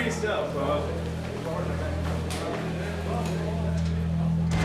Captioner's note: chatter